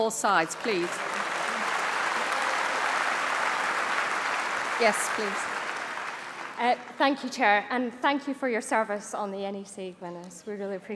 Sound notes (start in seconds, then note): 0.0 applause; 4.6 cheering